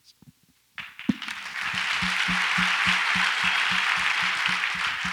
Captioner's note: audience applauds